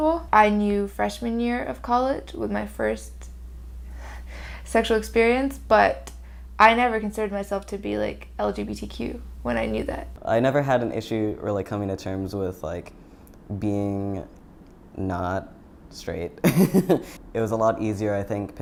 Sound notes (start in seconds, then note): 16.5 chuckle